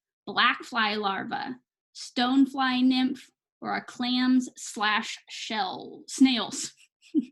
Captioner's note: chuckles